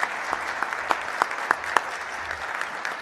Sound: applause

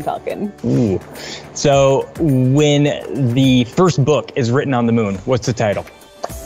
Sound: groans

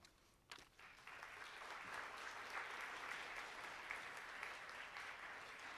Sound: audience applauding

